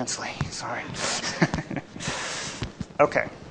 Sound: laughs

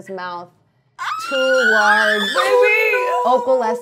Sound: shrieking

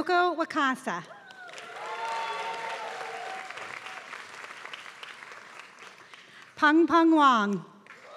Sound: applause

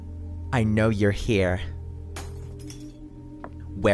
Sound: eerie music; glass crashes

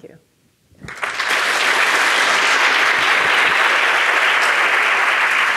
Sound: audience applauding

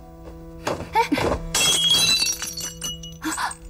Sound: sound of breaking

